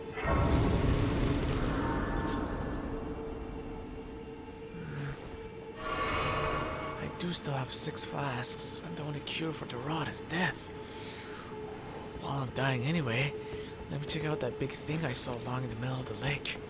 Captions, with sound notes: Hmm... I do still have 6 flasks, and the only cure for the rot is death. *deep breath as if constipated* While I’m dying anyway, let me check out that big thing I saw lying in the middle of the lake.